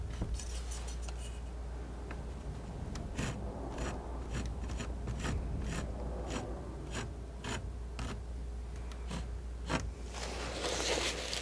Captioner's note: scratching